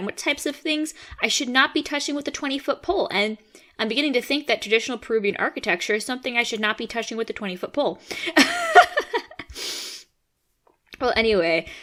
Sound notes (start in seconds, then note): 7.9 laughs